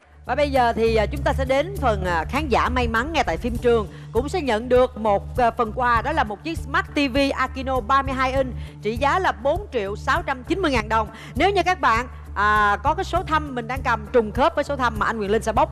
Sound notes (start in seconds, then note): none